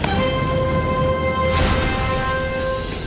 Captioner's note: crash